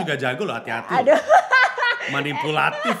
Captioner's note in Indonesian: tertawa